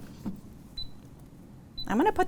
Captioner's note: beeping